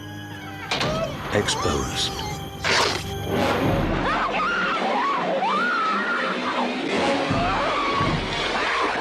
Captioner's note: door Creaking; screaming